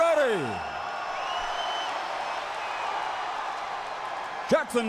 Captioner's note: crowd cheering